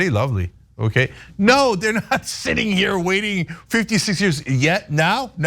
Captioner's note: laugh